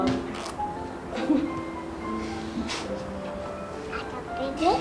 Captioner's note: woman chuckles